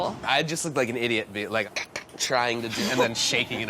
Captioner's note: imitates squeaking; laughing